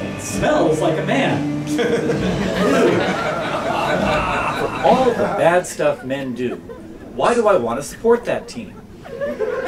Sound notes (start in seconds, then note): 1.7 laughter